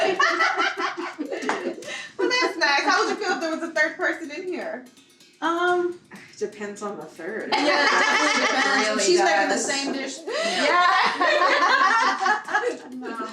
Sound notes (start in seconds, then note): 0.0 everyone laughing; 7.5 laughing; 9.7 everyone laughing